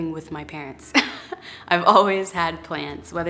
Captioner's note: laughs